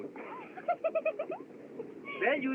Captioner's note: Abigail Giggling